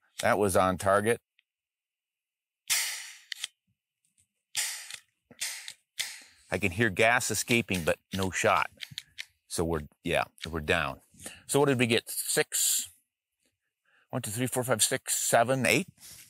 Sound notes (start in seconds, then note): 2.7 shot fires; 2.8 hissing